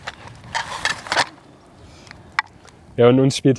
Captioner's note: rustling, cracking